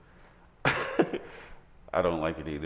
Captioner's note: laughing